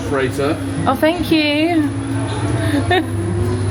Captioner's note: chuckling